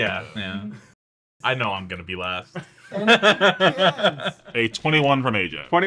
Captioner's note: laugh